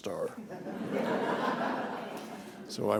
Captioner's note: laughter